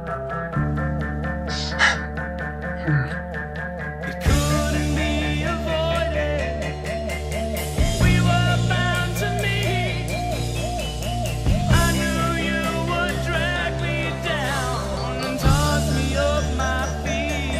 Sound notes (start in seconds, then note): 1.4 loud breathing